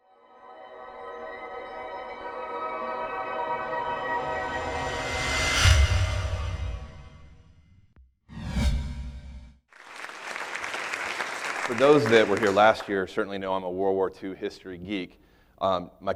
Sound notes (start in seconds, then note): 0.5 high pitched chiming; 9.7 applauding